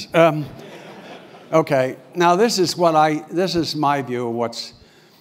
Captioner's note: laugh